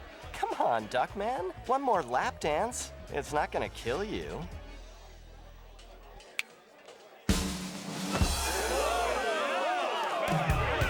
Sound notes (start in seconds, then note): 6.3 snaps fingers; 7.8 audience gasps